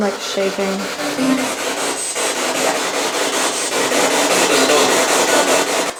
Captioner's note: spirit box chattering